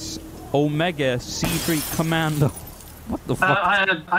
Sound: explosion

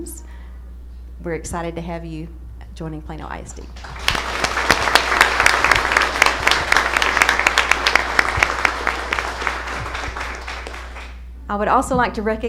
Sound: applause

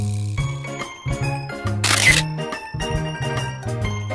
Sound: shutter sound

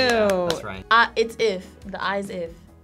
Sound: claps

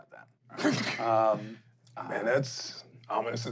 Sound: coughing

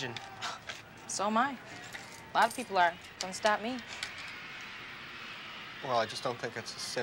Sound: scoffs

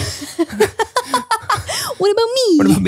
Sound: laughing

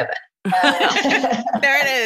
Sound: laughter

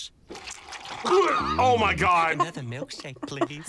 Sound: gags; laughs

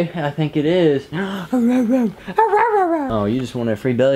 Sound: bad dog impression

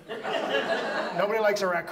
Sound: audience laughs

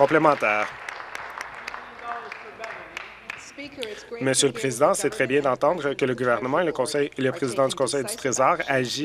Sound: applause

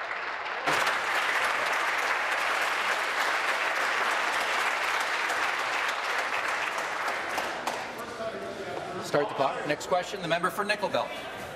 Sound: applause

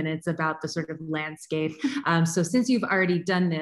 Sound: chuckles

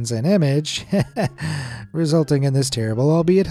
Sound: chuckles

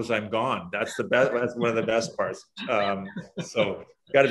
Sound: laughs

